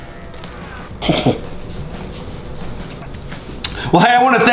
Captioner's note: laughs